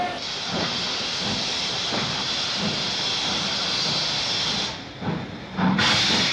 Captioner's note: indistinct chatter